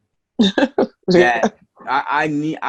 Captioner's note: laughing